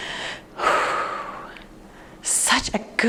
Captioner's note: exhales deeply